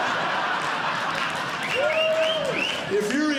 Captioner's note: crowd cheering